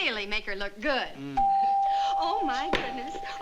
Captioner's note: doorbell rings